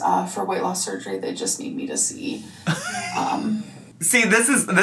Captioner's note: laughs